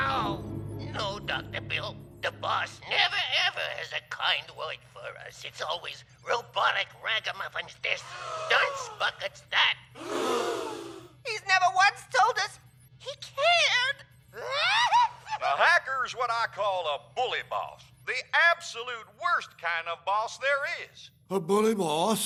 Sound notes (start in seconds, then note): 10.0 crowd gasps in shock; 14.3 crying